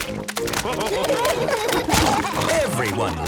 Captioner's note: splashing